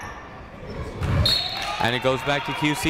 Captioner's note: whistle blows